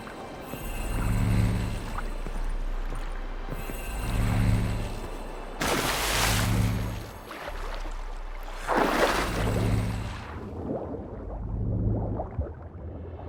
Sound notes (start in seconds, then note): 5.5 splash